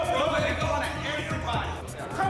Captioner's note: indistinct chatter